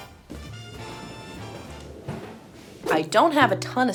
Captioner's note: rolling suitcase